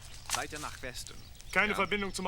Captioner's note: speaking german